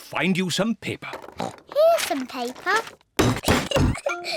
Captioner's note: oinks; giggles